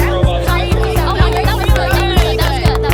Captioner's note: clapping